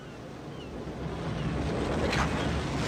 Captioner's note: wind & waves